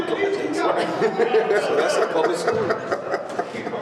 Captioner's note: laughter